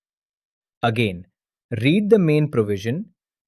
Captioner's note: thoughtful